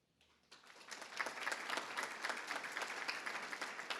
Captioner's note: everybody applauds